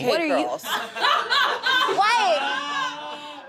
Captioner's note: audience laughs